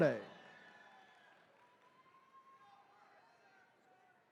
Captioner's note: attendees cheering